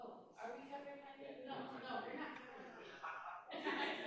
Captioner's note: crowd chattering